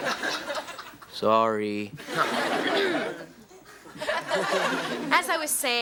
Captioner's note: audience laughs